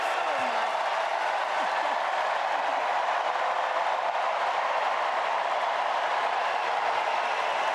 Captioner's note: applause